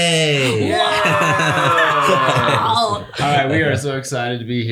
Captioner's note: laughter